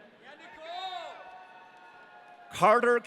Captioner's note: audience cheering